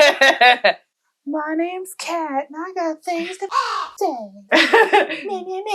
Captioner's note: caw